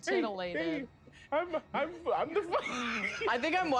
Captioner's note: laughs